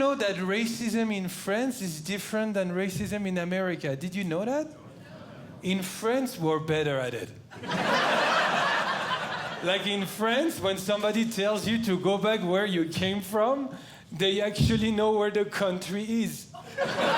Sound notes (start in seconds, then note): 7.5 audience Laughing